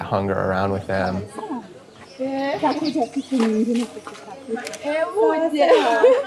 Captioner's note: speaking in foreign language